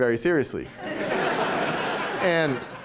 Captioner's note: laughter